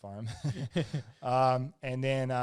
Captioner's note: both laugh